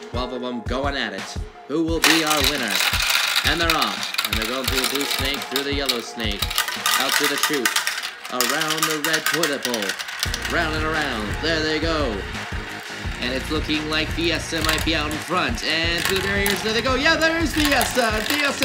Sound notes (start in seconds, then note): 3.1 marbles clacking